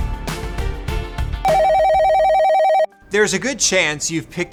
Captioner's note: tense upbeat music; cell phone ringing